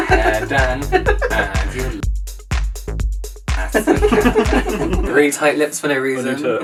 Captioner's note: laughing, music, a general good time